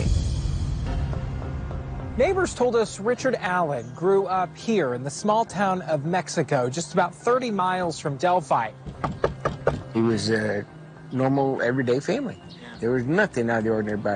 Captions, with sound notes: Nobody had ever heard of Richard Allen at that point. -Neighbors told us Richard Allen grew up here in the small town of Mexico, just about 30 miles from Delphi. [ Knocking ] -It was a normal, everyday family. There was nothing out of the ordinary about him.